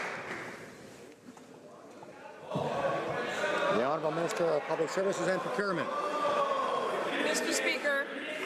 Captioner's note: some Applause